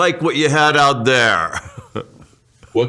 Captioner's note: chuckles